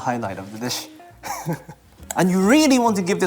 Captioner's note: laughs